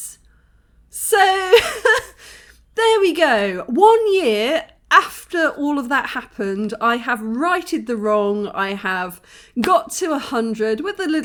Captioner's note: laughing